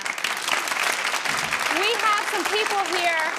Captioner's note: applause